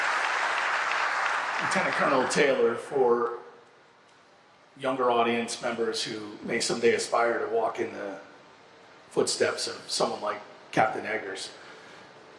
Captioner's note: applause